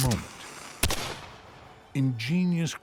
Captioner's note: gunshot